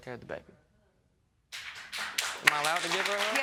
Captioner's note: audience clapping